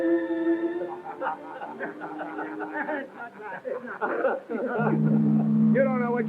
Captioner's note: laughter